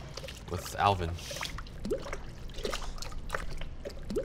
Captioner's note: sloshing